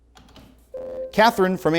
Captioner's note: ringing